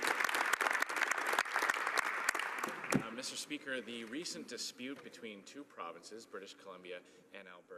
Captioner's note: some Applause